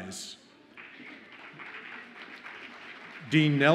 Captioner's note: audience applauds